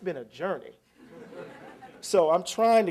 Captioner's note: laughter